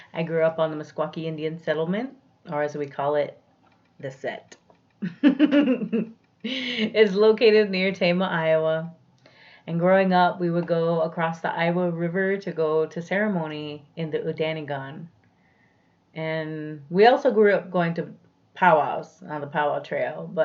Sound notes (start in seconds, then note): 5.1 laughs